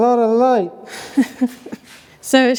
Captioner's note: laughing